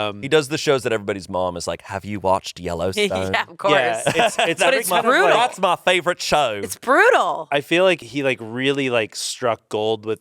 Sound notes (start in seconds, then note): 3.7 laughs